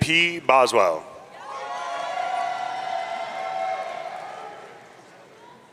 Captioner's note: audience cheering